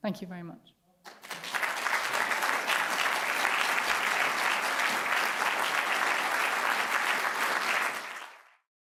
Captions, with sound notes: Thank you very much. [APPLAUSE]